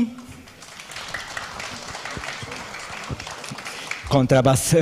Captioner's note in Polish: oklaski